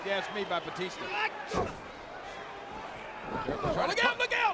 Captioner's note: feet thud